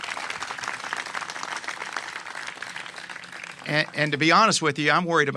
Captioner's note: applause